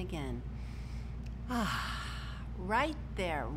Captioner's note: inhales deeply; exhales sharply